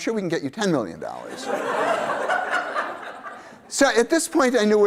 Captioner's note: laughter